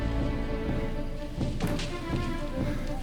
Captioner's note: footsteps